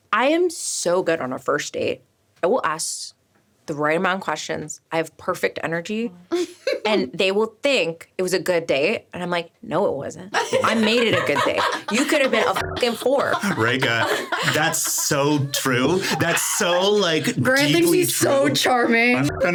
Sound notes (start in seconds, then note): 6.3 laughing; 11.4 laughing; 12.9 buzzing; 19.4 buzzing